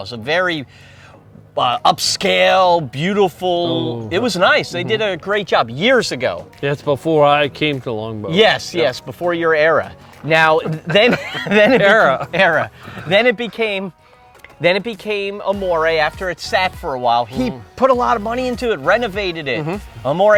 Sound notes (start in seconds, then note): 10.3 laughs